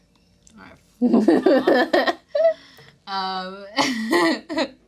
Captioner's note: chuckles